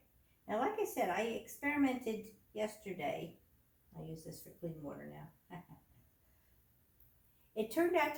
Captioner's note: giggles